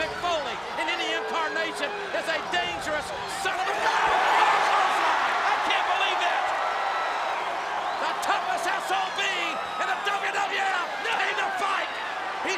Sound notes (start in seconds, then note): 4.2 audience cheers